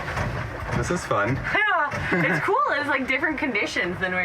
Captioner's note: laughs